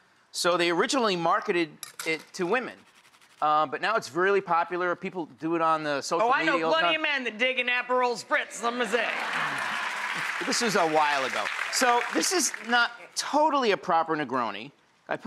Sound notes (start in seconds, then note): 8.8 audience laughs and applauds